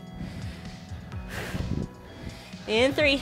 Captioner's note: breathes heavily